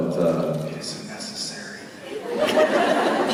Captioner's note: whispering